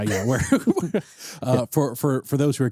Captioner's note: both laughing